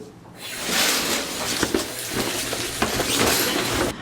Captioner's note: curtain rustling